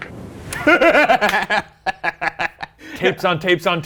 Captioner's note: laughs